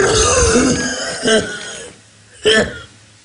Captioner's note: man coughs